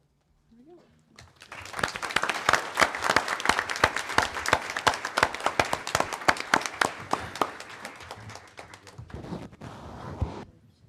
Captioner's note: applause